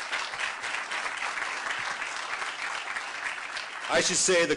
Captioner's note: applause